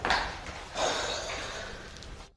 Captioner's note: gasps